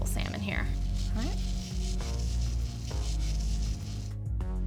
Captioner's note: grinding salt